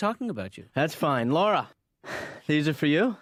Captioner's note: huffing